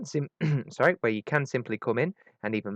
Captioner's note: clears throat